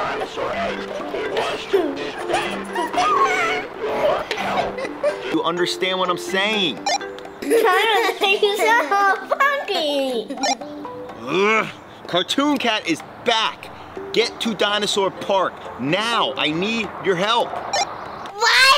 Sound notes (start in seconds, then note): 0.0 both giggling; 0.0 radio noise continues; 0.0 Radio noise drowns out Dad; 10.0 both laughing; 11.2 Dino Dad grunts